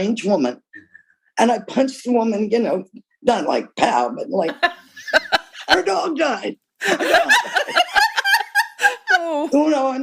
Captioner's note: laughter